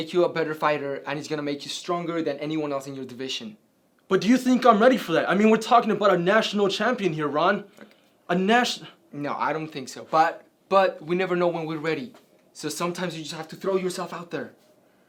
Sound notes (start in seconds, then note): none